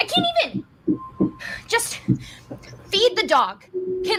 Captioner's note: sighs